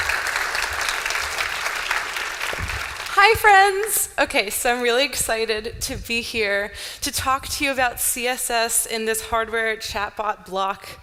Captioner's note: applause